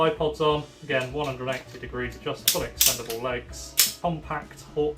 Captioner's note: bipod clicks